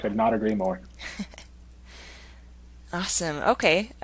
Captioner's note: chuckles